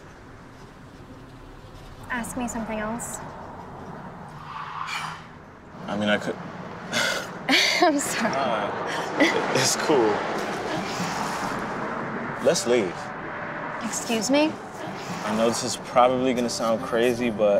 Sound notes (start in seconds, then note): 6.9 laughing